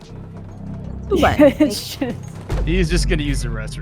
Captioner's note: laughs